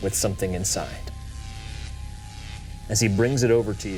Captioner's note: electricity zapping